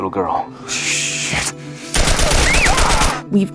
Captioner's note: gunfire